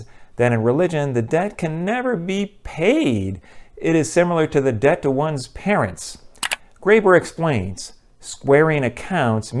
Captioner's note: mouse click